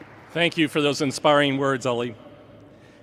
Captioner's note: applause